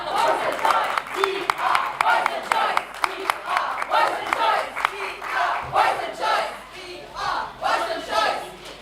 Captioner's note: applause